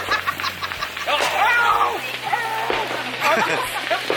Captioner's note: someone screaming in pain